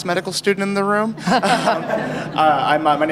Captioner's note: laughter